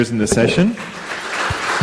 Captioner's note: audience clapping